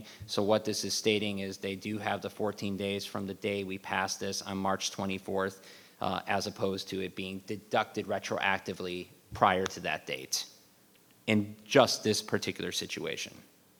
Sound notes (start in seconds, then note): none